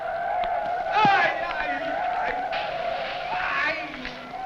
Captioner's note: men shouting